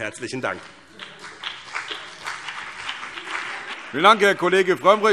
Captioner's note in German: Beifall BÜNDNIS 90/DIE GRÜNEN und CDU